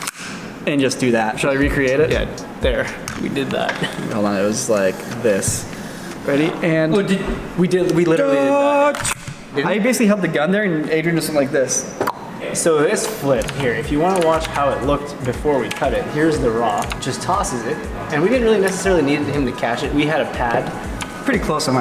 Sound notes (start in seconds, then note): 7.2 dramatic whisper yell; 11.9 pop noise